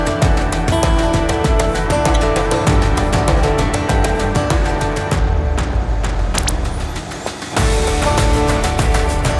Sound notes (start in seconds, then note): 6.3 electronic noise; 7.5 birds